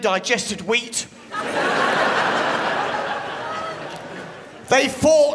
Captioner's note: crowd laughs